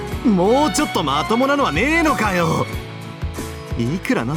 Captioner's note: none